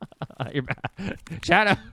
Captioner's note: laughing